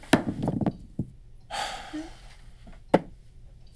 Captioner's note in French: Soupir